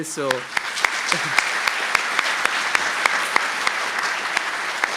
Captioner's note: applause